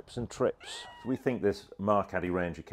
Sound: scream

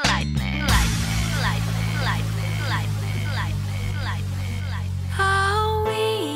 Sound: lightning

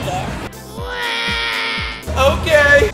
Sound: cries

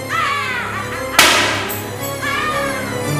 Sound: explodes

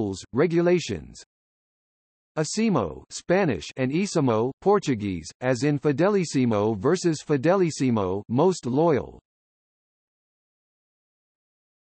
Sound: Spanish

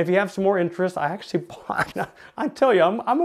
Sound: laughing

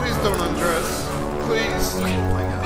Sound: panting; exhale

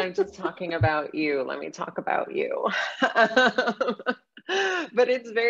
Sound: laughing

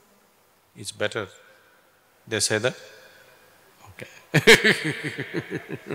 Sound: laughs

